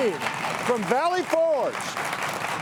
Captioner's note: audience continues applauding